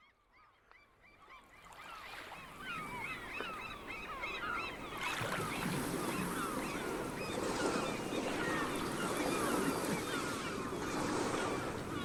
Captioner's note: soundbite of seabirds calling, waves crashing and bell ringing